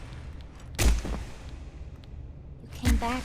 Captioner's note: gun firing